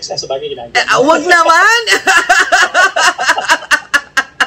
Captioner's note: laughter